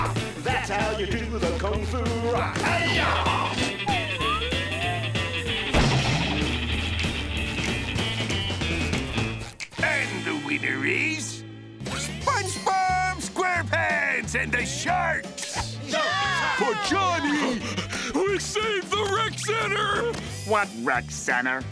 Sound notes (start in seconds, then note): 7.5 all snapping fingers; 15.8 all cheering; 17.2 panting